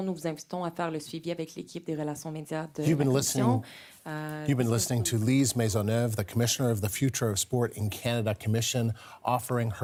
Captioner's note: speaking french